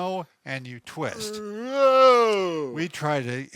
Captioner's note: straining noises